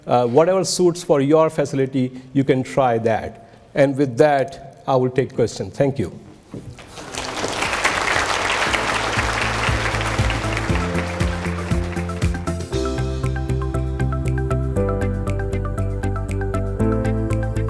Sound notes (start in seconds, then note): 6.8 applauding; 8.8 soft music